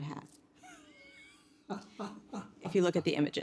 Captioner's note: laughing